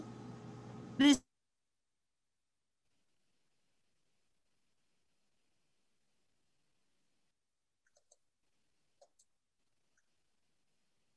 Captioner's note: silence-technical issues